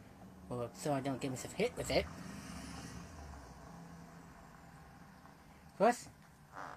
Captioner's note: school bus drives